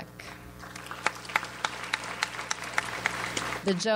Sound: audience applauds

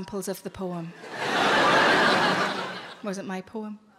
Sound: laughing

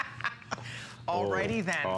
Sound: laughter

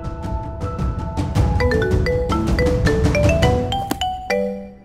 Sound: phone ringing

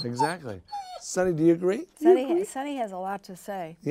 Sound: Sunny whines

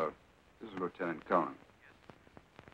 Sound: on phone

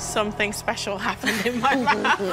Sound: laughter

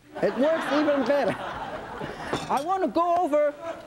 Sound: audience laughing

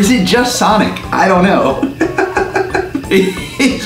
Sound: laughs

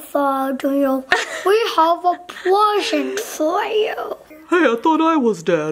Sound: laughing

